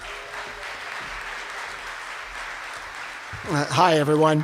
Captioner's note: cheers and applause